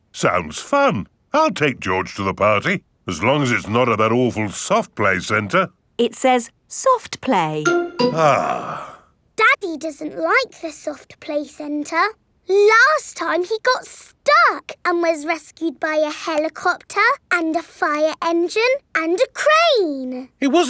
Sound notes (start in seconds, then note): 8.3 sighs